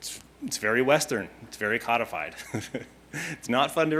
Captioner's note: laughing